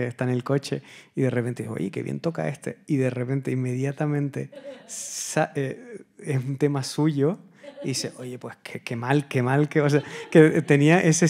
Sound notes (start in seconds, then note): 5.2 audience member laughing; 5.2 continues in Spanish